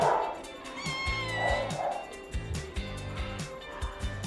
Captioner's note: kitten meows